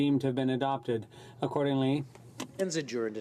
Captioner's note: speaking french